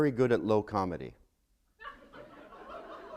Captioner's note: laughter